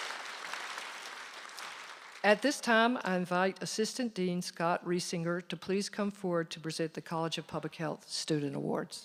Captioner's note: applause